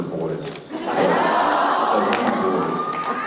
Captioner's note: audience "aww"s